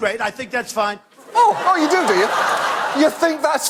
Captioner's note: audience laugh